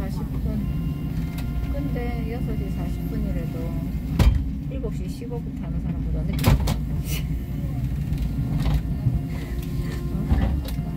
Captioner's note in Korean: 출입문 닫힘